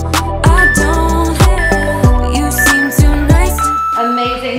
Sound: alarm beeping

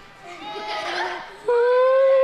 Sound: kids laughing

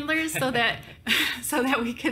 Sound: chuckles

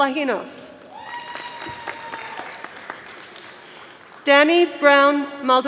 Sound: audience applauding

